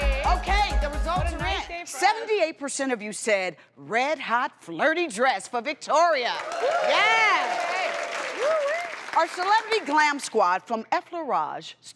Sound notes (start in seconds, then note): 6.3 audience claps